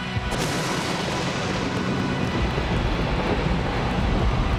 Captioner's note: thunder rumbling